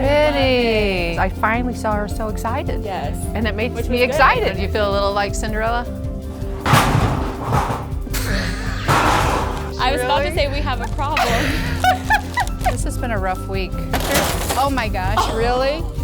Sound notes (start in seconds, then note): 6.3 display crashing; 8.2 laughing; 11.1 both laughing; 13.8 treats crashing; 15.1 laughing